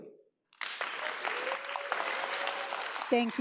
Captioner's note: audience applauds